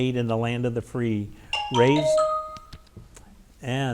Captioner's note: bell chimes